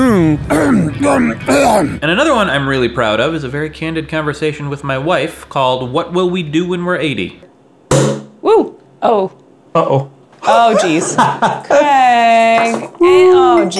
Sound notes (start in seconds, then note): 0.4 clears throat; 7.9 champaign bottle pops